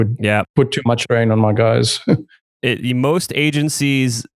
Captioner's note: laughs